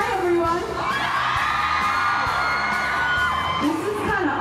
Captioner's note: cheering